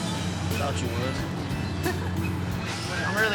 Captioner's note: giggling